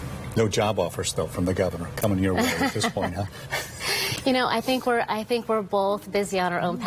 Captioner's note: laughter